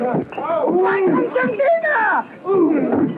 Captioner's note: speaking portuguese